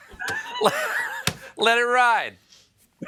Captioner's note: laughing